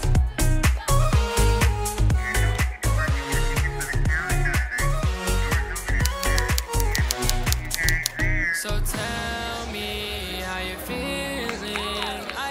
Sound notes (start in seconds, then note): 2.0 muffled school announcements; 2.0 upbeat pop music; 6.0 typewriter clicking; 6.4 upbeat pop music; 11.4 clapping